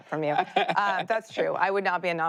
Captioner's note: laughs